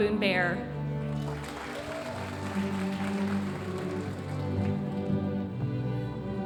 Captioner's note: audience applauding